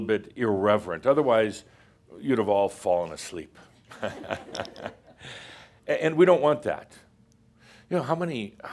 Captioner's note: some chuckles